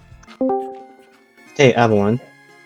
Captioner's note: Discord join call sound